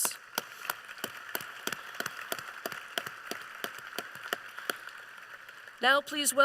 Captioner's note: applause